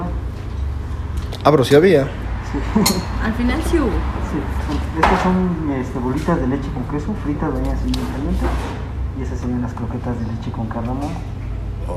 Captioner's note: laugh